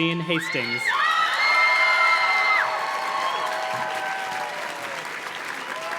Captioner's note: audience cheers and claps